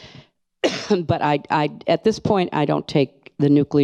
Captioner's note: coughs